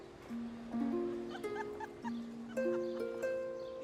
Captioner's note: laughing